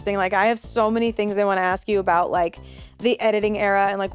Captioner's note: none